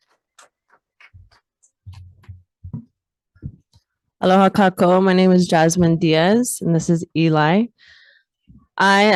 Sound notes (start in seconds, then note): 6.6 speaks in foreign language